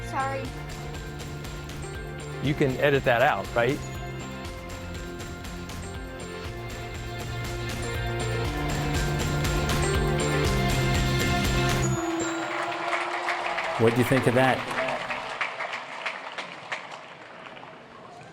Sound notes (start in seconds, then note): 5.4 upbeat music; 11.4 applauding